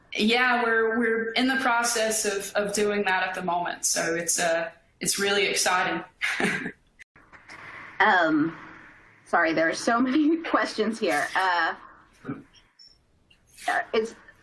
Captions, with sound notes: Yeah, we're in the process of doing that at the moment. So it's really exciting. (laughs) Sorry, there are so many questions here.